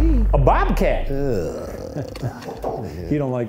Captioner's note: chuckles